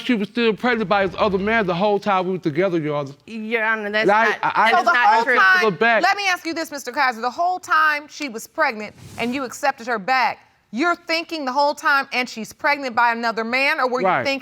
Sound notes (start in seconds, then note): 3.7 stammering